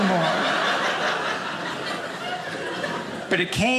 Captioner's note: audience laughing